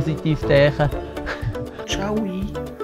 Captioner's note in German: er lacht